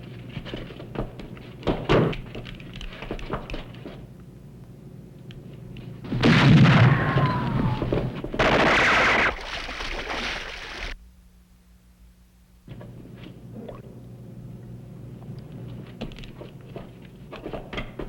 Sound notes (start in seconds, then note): 8.8 water splashes